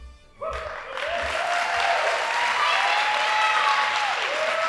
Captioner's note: audience applauding